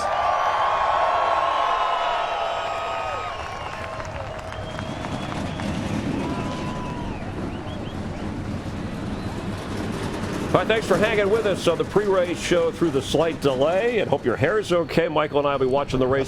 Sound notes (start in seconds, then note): 2.6 cheers and applause